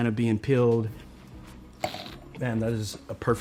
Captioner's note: slurps and swishes wine